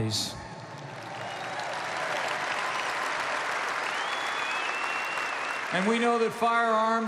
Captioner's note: applause